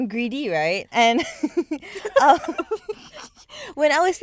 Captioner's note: girls giggling